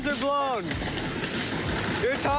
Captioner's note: tire flapping